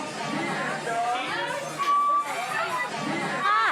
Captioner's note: loud chatter